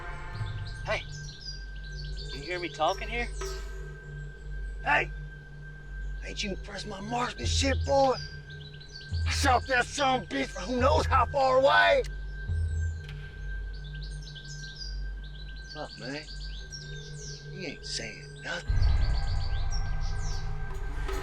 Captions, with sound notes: Hey, do you hear me talking here? - Hey, ain't you impressed with my marksmanship, boy? I shot that son of a bitch from who knows how far away. (bird chirps) Fuck, man, he ain't saying nothing. (slow music)